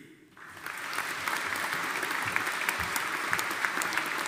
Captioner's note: audience applauding